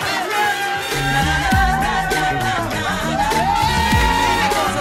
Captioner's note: cheering and whooping